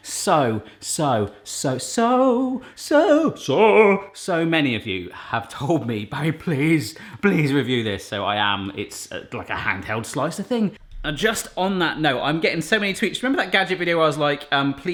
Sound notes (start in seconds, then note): none